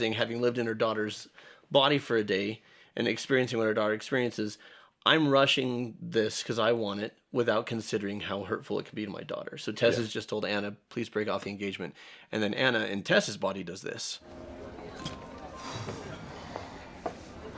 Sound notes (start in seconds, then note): 15.3 exhales